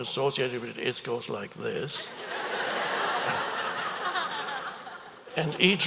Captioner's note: audience laughs